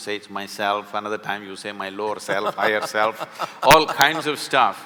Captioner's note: Karan Johar laughs